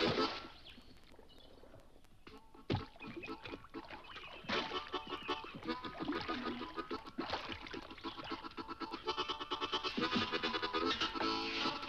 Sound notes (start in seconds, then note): 9.6 bike clanks